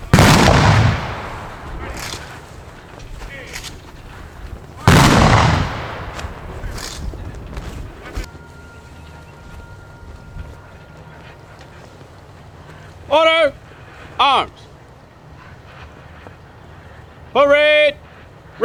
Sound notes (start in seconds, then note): 0.0 gunshots firing; 4.8 gunshots firing; 8.2 soft music